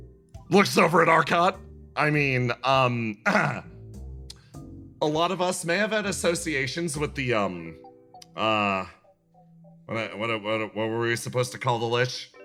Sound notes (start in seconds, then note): 3.2 clears throat